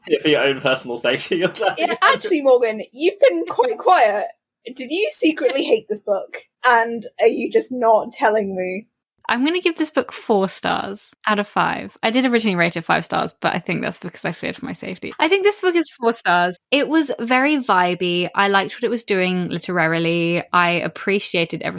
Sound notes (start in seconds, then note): 0.1 laughing; 3.3 laughs